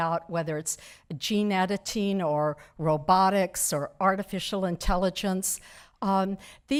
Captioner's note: none